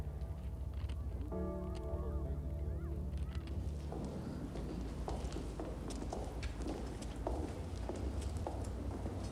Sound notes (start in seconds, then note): 3.4 footsteps tapping